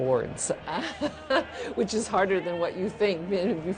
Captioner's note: laughs